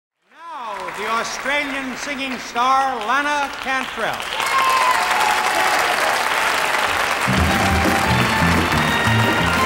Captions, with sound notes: - Now, the Australian singing star, Lana Cantrell. (audience cheers and applauds) (upbeat music)